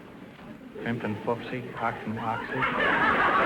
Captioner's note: Groucho mumbling to himsef in German; audience laughter